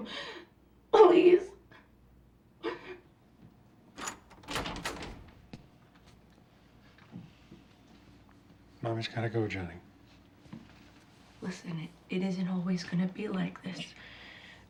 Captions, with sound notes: Please? (SOBBING) Mommy's got to go, Johnny. Listen, it isn't always gonna be like this.